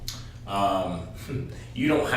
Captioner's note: laughs